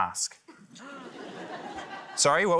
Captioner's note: laughter